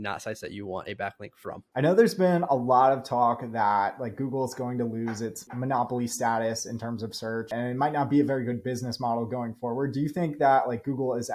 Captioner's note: speaking; speaking